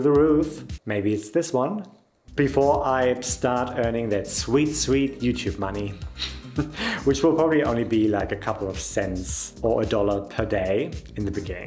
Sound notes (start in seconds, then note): 6.2 laughing